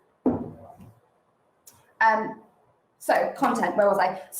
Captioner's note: glass taps